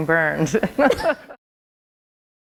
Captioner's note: laughter